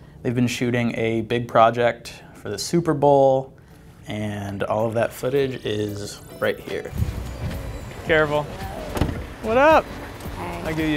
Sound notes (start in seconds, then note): 9.1 car door closes